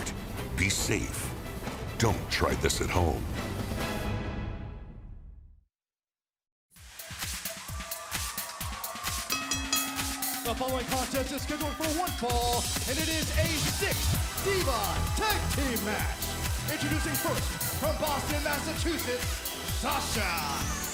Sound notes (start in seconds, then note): 9.3 bell ringing